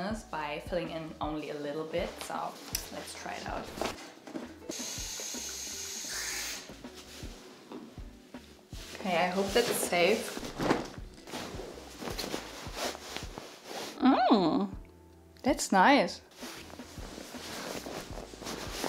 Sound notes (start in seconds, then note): 5.0 water running